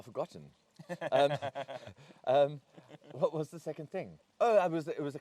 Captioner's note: laughs